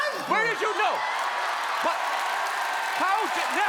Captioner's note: cheerin